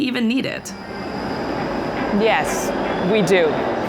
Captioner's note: engine revving